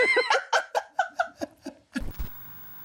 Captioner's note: laughter